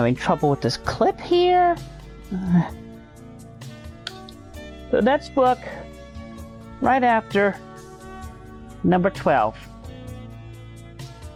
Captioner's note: sigh